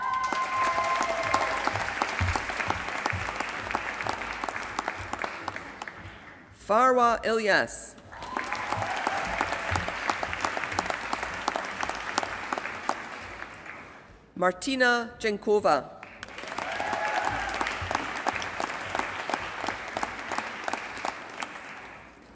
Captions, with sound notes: [APPLAUSE] Farwa Ilyas. [APPLAUSE] Martina. Jankova. [APPLAUSE]